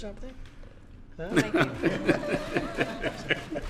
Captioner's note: laughter